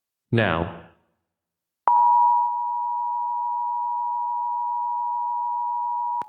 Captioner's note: alarm beeping